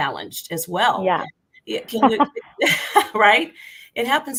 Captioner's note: laughter